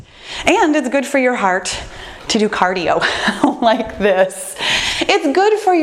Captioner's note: laughs